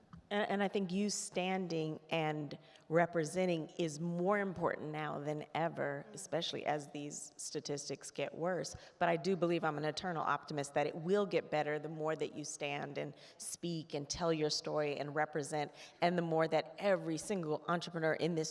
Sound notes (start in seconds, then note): none